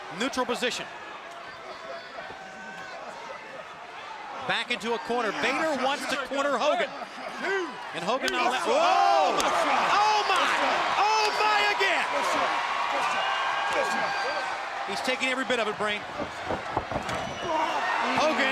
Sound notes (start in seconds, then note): 11.9 crowd cheering